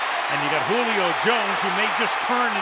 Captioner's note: cheering